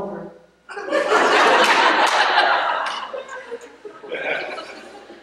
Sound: laughter

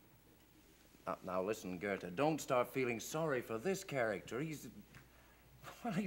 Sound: laughs

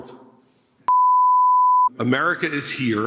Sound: bars and tone

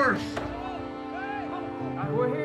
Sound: men shouting

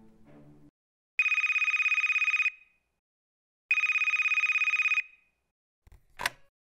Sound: phone ringing

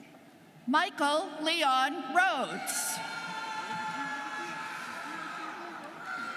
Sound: students cheering

